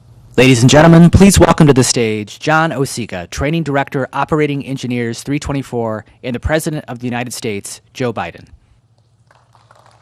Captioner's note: applause